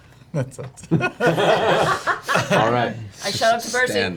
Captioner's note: all laugh